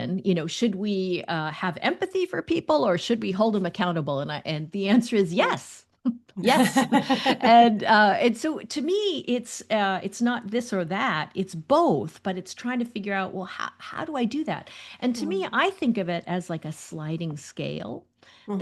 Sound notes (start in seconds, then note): 6.4 laughter